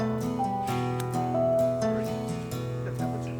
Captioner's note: locket clicking